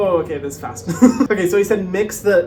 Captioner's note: chuckles